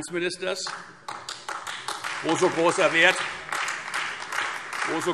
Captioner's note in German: Beifall Freie Demokraten, vereinzelt SPD und AfD